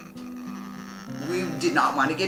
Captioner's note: crying